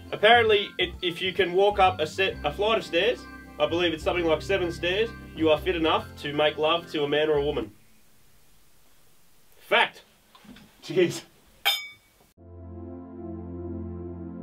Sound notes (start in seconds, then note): 11.6 clink!; 12.4 sombre music